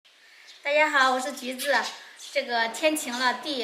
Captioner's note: Mandarin